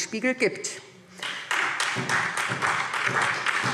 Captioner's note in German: Beifall SPD